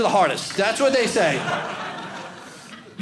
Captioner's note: audience laughing